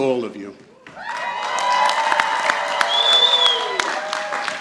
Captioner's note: audience applauding